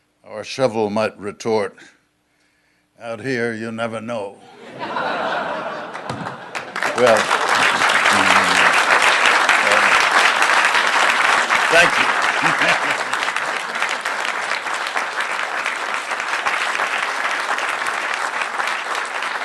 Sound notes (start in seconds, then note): 4.6 laughing; 6.4 applause; 12.4 applause